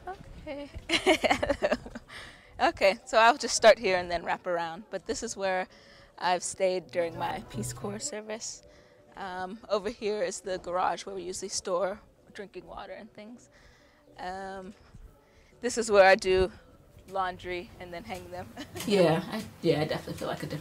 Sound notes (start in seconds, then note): 18.5 laughs